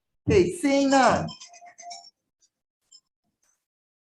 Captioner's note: phone rings